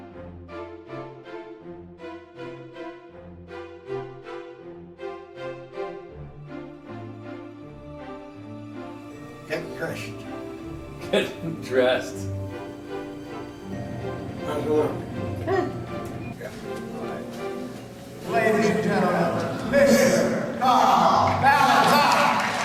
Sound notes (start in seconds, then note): 16.5 overlapping quiet chatter